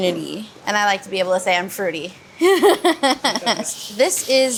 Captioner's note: laughing